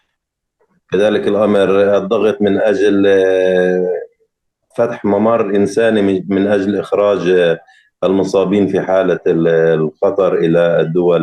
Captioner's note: speaking arabic